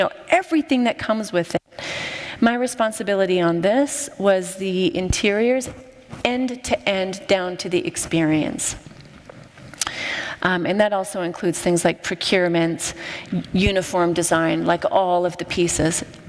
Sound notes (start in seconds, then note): none